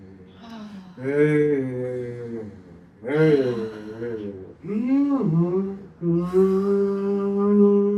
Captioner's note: humming